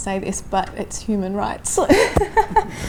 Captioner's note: laughs